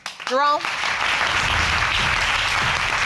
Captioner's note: audience applauding